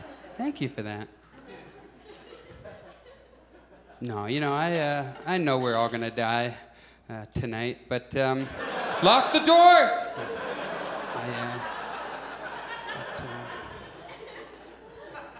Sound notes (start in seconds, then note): 8.4 audience laughs; 9.1 shouts; 10.2 audience laughs